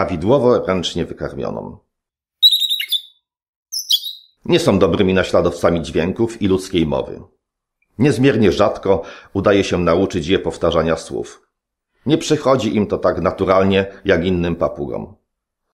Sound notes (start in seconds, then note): 2.4 parrot singing